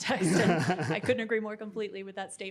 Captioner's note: chuckles